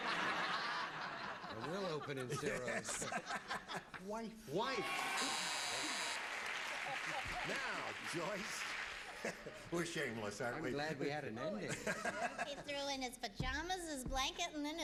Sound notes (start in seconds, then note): 1.5 normal voice; 3.2 laughing; 6.7 laughs